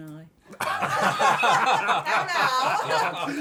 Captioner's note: laughter